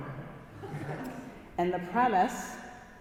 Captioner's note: congregation laughing